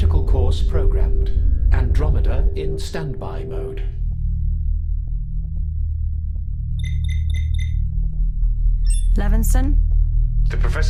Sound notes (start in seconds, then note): 6.7 communicator chimes